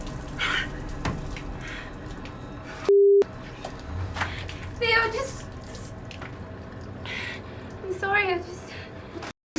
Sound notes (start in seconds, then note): 0.7 gasping